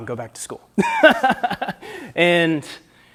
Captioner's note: laughter